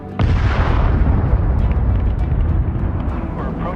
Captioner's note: loud blast